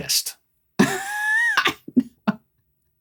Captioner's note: laughing